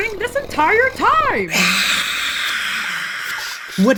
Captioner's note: whisper screams